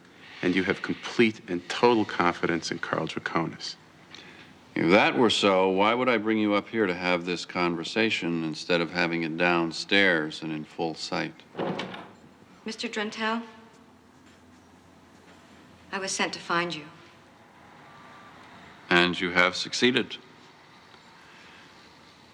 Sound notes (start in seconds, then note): 11.5 door opens